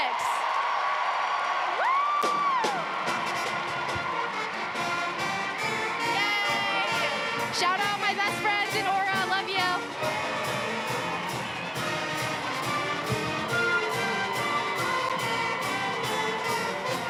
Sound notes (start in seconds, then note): 8.3 cheering and applause